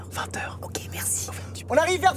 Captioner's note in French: chuchotements